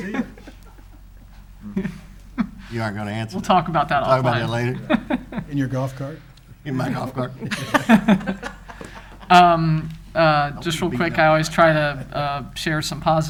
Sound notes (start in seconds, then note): 0.0 laughing; 5.6 laughing; 9.7 all laughing